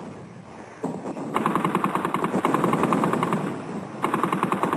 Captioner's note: artillery firing